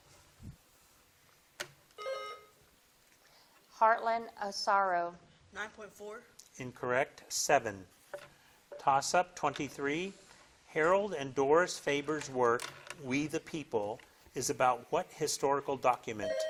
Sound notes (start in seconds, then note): 2.0 bell dings; 16.2 bell dings